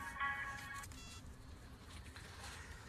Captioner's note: phone beeps